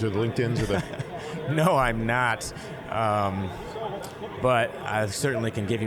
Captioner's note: laughing